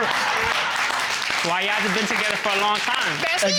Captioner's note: audience applauds